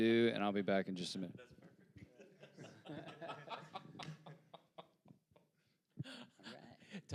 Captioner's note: panelists laughing